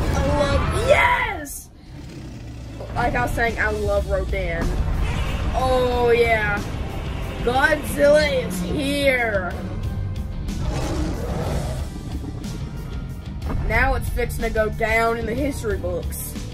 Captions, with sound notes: -I love- YES!!! -Like I was saying, I love Rodan. -Oh yeah! -Godzilla is here! [Godzilla growls] -Now it's fixing to go down in the history books!